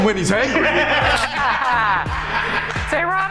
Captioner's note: group laughs